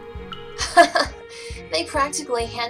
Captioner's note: Vivian laughs